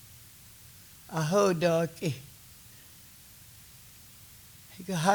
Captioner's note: speaking Kiowa